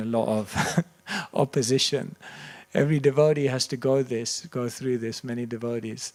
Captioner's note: chuckles